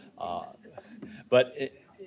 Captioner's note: chuckling